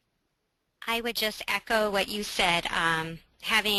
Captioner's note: voiceover